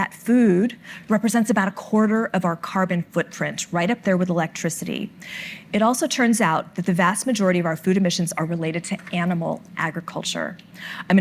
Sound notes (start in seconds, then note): none